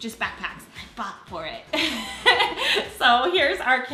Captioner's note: laughs